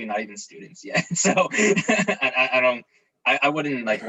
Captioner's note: chuckles